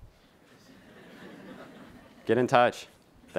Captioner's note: laughing